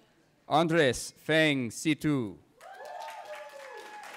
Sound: cheering

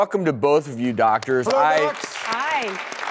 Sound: audience clapping

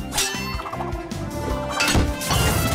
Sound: thump

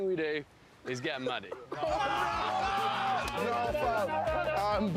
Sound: shouting and laughter

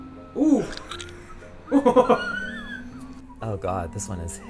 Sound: laughing

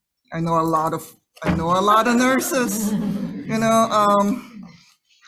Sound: audience scattered laughing

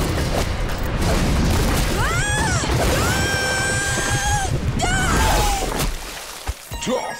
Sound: squealing

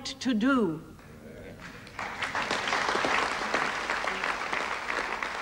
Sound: audience applauding

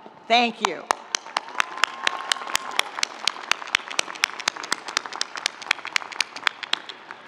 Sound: audience applauding; audience cheering

